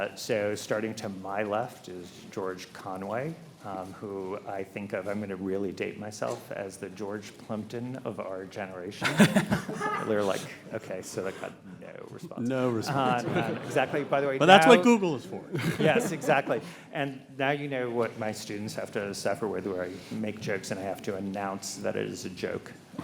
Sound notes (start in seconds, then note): 12.7 audience chuckles